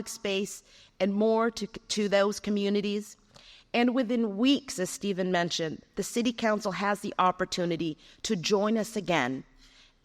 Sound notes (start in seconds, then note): none